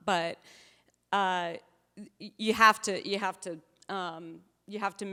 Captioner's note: none